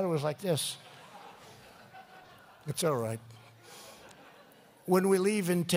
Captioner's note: laughter